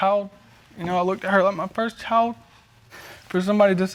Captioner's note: voice breaking